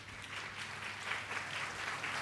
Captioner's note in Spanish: aplausos